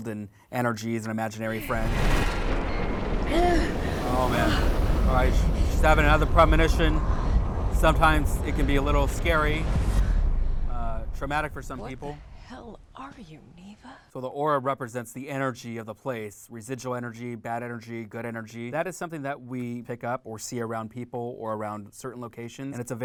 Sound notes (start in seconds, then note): 1.9 loud rumbling; 3.2 groaning